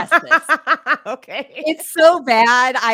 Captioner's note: laughs